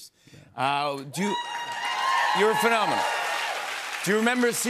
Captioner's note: cheers and applause